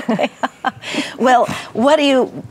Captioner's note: laughs